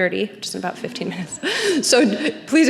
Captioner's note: laughs; audience laughing